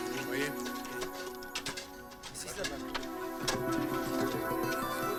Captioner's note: slow guitar music; men speaking in foreign language